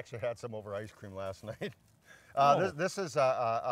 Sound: laughing

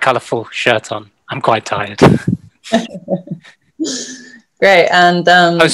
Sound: chuckle

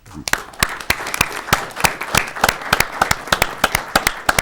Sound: audience clapping

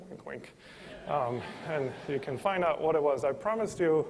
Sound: laughter

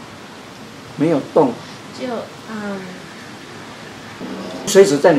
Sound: humm

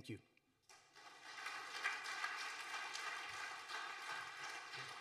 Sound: audience applauding

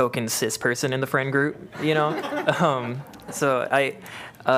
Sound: laughter

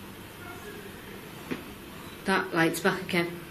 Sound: distant voice

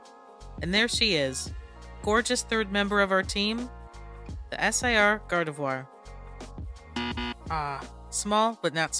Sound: incorrect buzzer noise

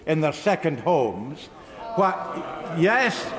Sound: sounds of disagreement from some members

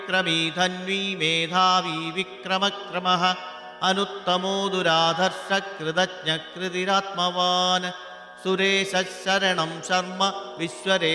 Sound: bell

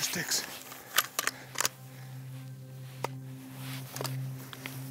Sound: rifle cocking

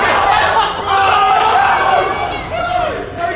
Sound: shouting

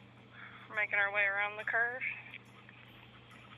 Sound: panting out words as briskly walking

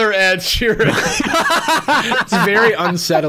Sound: laughs

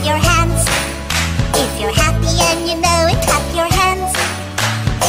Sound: clap clap; clap clap

